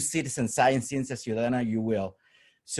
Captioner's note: spanish